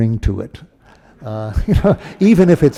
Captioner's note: laughter